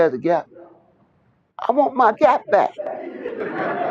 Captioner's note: laughter